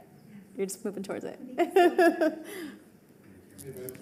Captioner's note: laughs